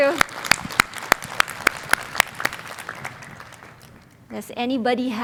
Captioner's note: applause